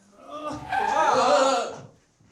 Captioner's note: car swerves again; yells